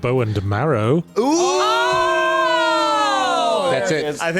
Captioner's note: collective OOOOOHHH